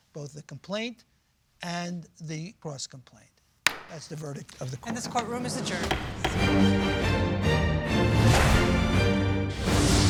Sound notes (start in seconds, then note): 3.6 gavel taps; 6.0 dramatic music